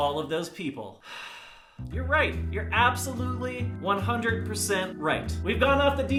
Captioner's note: sigh